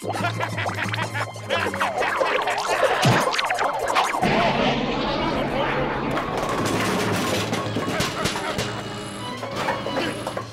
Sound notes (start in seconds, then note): 0.0 laughs; 6.2 muffled shouting; 8.2 groaning